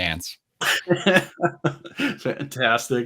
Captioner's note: laughs